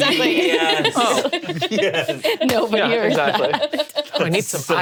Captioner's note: laughs